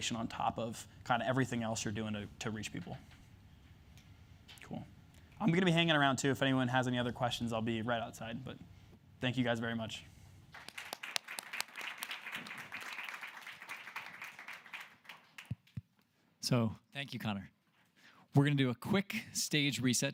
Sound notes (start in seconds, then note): 10.5 applause